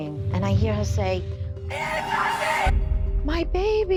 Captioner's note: screaming